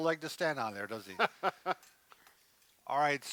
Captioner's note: laughing